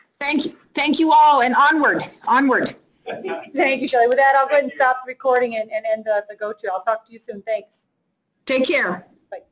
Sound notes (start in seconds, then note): 3.1 audience chuckling